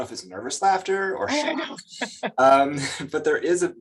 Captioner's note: chuckles